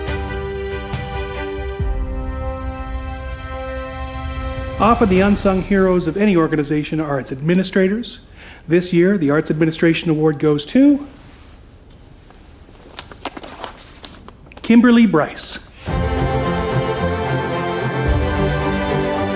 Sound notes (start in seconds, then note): 13.6 envelope rustling; 15.8 uptempo dramatic music